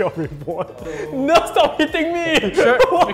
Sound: laughs

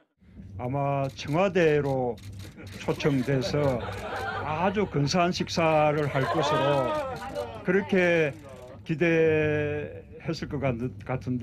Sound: Korean

